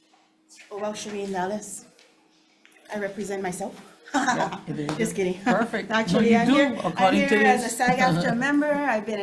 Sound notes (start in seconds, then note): 4.2 laughs